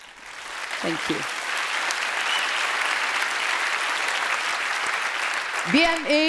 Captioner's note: applause